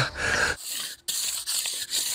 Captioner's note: grinding noises